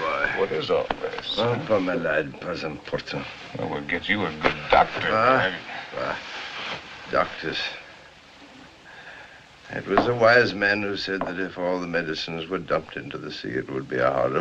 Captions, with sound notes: - My dear boy. - What is all this? - [ Speaking French ] - We'll get you a good doctor. [ Scoffs ] Doctors. It was a wise man who said that if all the medicines were dumped into the sea...